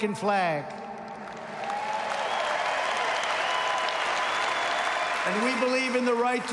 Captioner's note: applause